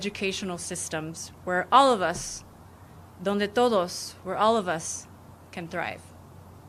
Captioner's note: speaking spanish